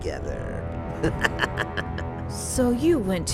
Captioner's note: chuckle